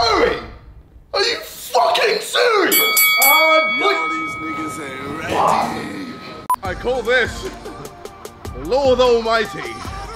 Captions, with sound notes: - Harry, are you fucking serious. (bell ringing) - I call this, lord almighty.